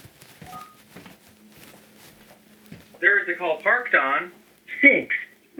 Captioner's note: beep